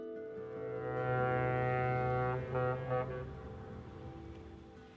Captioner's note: ship horn honking